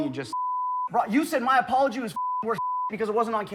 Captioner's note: beep; beep